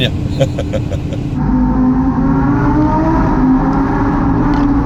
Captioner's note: engine roaring